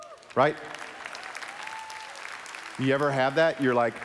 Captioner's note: applause